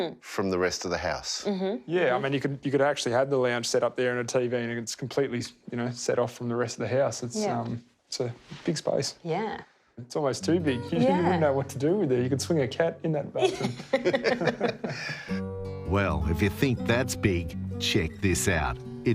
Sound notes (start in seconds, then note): 13.5 everyone laughs